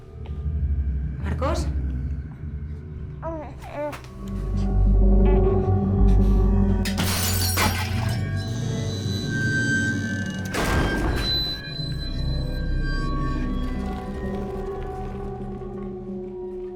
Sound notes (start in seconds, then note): 9.4 glass breaks